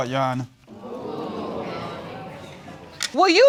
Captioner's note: audience murmuring